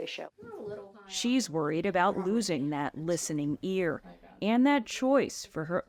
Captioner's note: voice-over